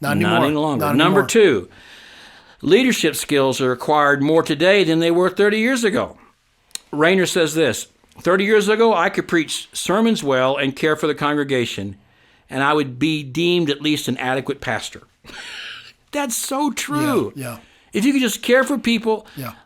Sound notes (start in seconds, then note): 15.3 laughing